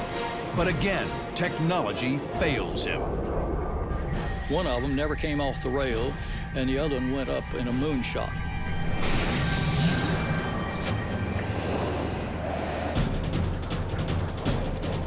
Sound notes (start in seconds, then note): 8.9 missile firing; 12.7 intense music plays